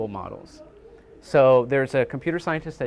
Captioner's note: people chattering